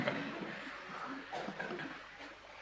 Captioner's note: laughter